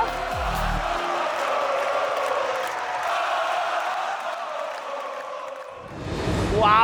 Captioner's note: crowd cheering